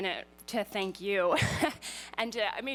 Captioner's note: laughs